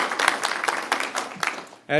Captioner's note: applause